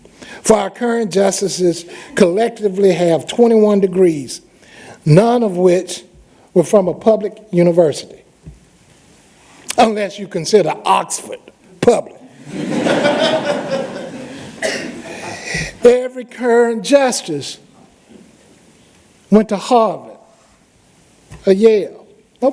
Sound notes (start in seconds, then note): 12.2 laughter